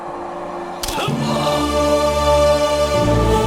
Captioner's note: bones Break